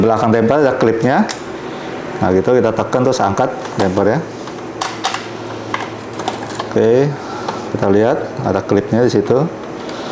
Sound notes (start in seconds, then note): 0.0 damper clip sound; 4.5 uninstalled damper sound